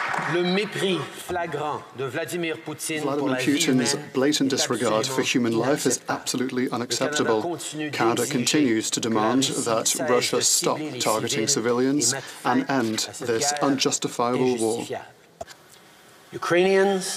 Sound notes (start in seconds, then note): 0.0 applause; 4.2 speaking French